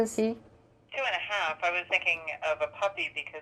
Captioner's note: woman on phone